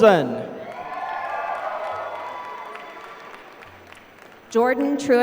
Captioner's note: applause